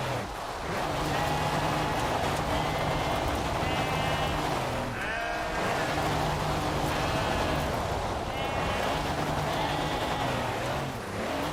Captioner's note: sheep bleating